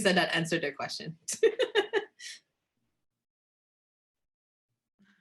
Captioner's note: laughs